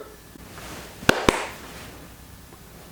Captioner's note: clap clap